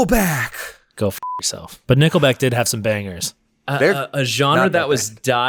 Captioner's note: beep